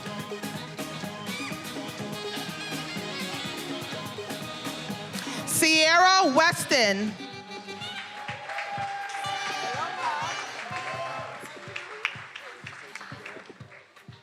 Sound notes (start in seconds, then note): 7.1 attendees cheering and applauding; 11.4 upbeat music